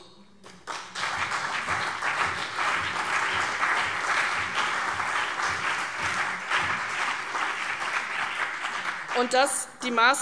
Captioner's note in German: Beifall CDU und BÜNDNIS 90/DIE GRÜNEN